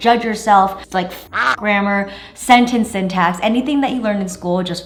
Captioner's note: quack